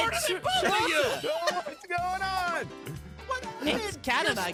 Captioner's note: raging